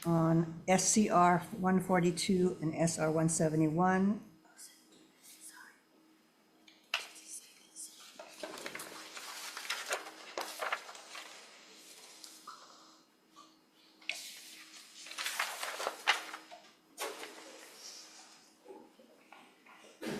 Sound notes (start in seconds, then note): 8.0 paper rustling